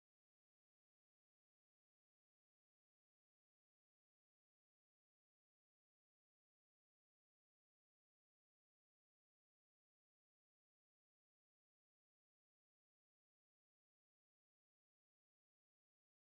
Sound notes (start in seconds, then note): none